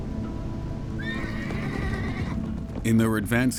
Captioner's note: horse whinnying